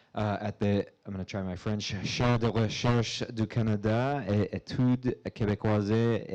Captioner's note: speaking foreign language